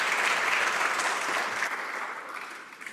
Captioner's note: some Applause